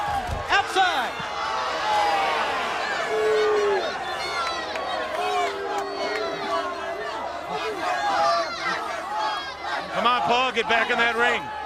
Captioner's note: crowd chatter